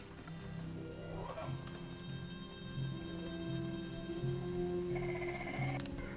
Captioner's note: tense orchestral music; animals chittering